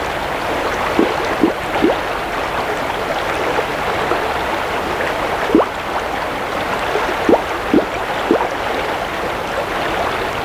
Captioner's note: running water continues; bubbling